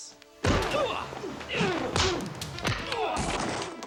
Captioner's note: body thudding; men groaning; dramatic music